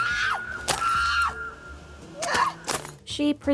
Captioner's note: screaming